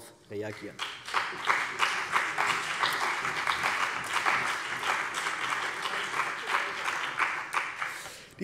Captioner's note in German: Beifall bei der CDU und dem BÜNDNIS 90/DIE GRÜNEN